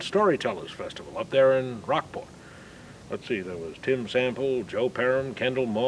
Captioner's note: none